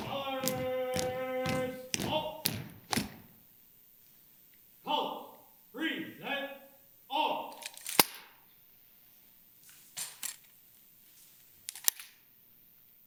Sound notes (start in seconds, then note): 0.0 feet stomp; 7.6 rifles clink